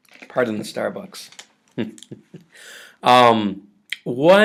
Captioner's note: chuckles